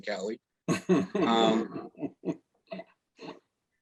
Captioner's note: chuckles